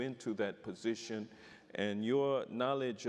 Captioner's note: none